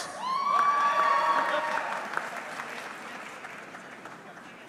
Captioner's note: audience cheering